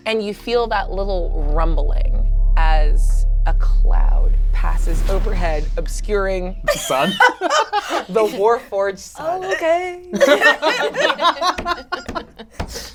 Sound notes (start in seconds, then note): 6.6 laughs; 10.1 all laugh